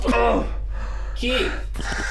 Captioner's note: Keith retching